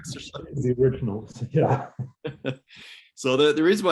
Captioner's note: both chuckle